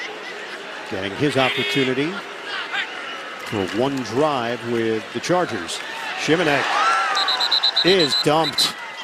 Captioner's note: whistle blowing